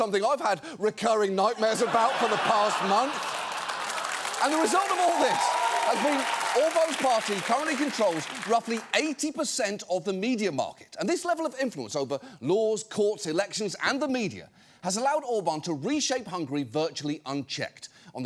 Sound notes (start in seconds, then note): 3.2 audience laughing, applauding